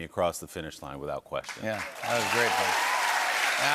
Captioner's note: cheers and applause